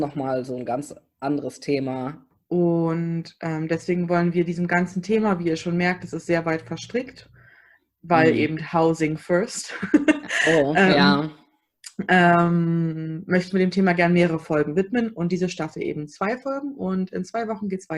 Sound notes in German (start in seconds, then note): 10.2 lacht